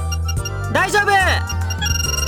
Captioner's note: shout